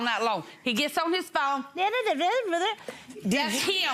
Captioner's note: murmurs